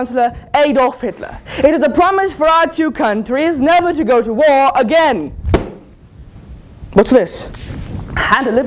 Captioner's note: bang